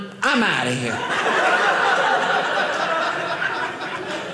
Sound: audience laughing

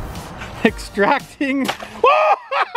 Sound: sploosh

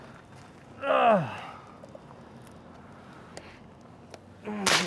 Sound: groans; gunshots

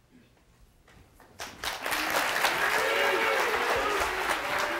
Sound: audience applauds

